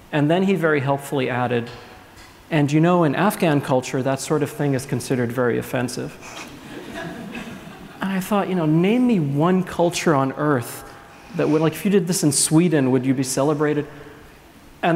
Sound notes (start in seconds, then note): 6.3 laughs